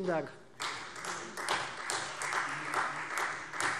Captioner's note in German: Beifall Freie Demokraten